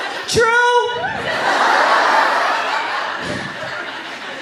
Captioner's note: laughter